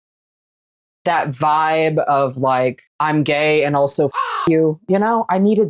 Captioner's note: caw